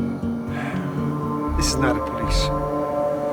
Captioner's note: sighs